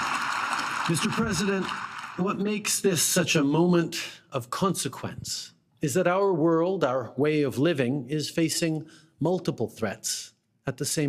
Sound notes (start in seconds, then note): 4.0 applause